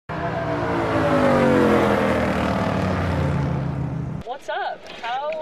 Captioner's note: engine blaring